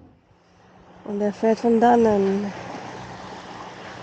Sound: boat engine in the background

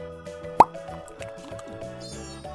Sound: chewing

